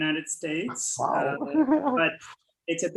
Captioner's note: laughs